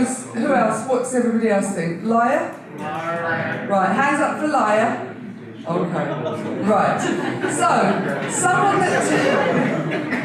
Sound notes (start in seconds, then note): 6.0 audience laughter